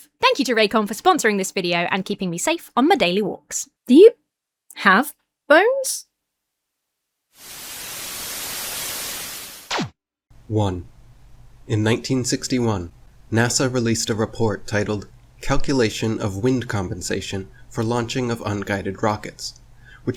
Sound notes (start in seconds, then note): 7.3 static hisses; 9.6 laser shoots